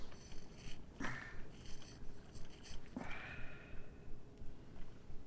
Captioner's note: grunting